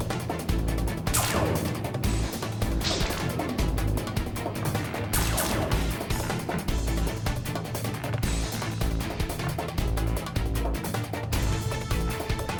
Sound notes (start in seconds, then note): 5.9 floorboards creak